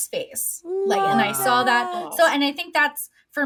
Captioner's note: they exclaim